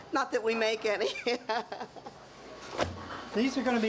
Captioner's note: laughing